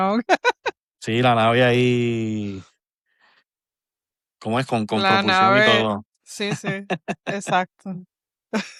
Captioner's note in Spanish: risas